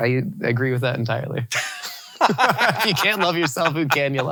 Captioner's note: both laughing